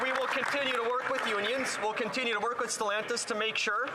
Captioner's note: some Applause